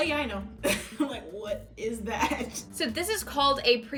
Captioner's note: chuckles